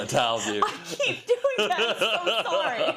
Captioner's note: laugh